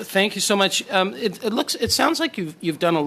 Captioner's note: speaking French